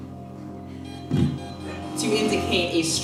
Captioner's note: soft electronic beeping